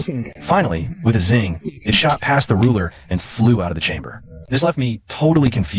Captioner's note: zing